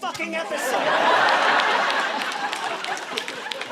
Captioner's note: all laughing